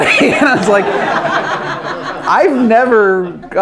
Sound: everyone laughs

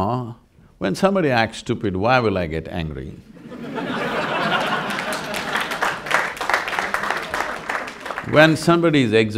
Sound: laughter/Applause

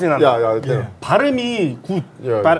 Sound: in Korean

